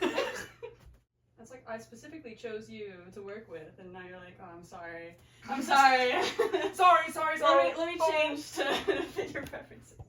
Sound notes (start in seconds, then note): 0.2 laughs; 5.9 laughs